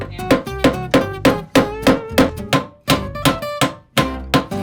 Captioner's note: hammering